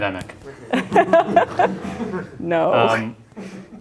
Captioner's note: laughter